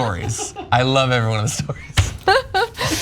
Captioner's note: laugh